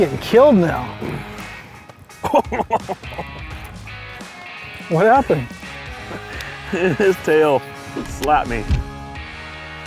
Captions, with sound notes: - I'm getting killed now. (laughter) What happened? - His tail, it slapped me!